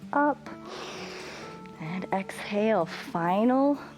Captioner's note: inhales